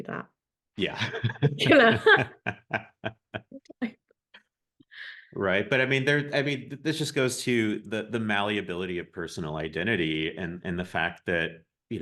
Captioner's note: both laugh